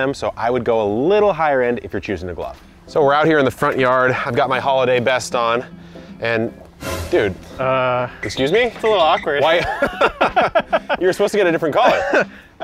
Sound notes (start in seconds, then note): 9.2 guys laugh